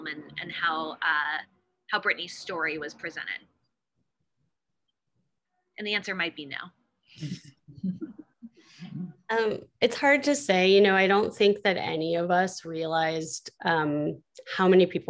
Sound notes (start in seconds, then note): 7.2 chuckle